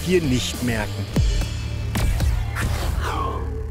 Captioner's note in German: Dumpfe Geräusche